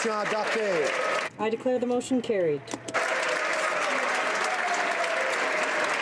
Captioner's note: applause